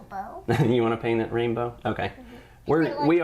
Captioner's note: laughing